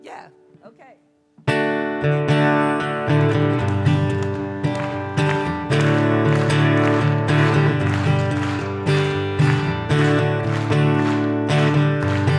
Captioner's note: audience claps along; acoustic guitar